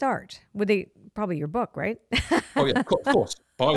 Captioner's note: laughs